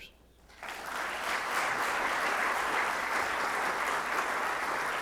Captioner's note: audience clapping